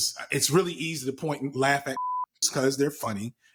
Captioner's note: beep